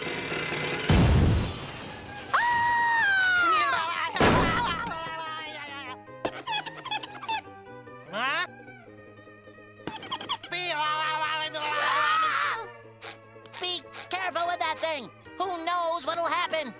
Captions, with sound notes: [crashing] [screaming] [door slamming] [squeaking] Huh? [rambling] [screaming] Be careful with that thing! Who knows what'll happen?